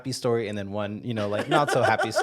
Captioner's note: laughing